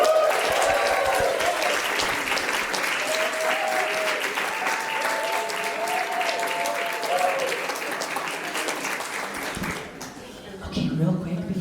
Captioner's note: applause